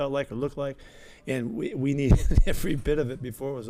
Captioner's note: chuckling